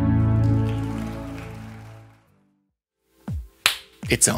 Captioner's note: audience applauds